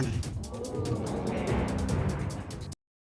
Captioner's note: audience gasping